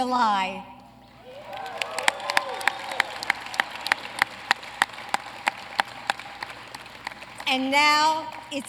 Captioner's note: applause